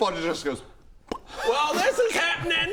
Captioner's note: pop!